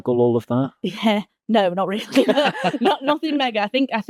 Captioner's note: laughs